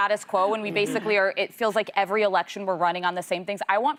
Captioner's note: laughter